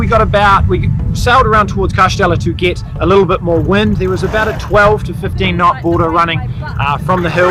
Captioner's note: wind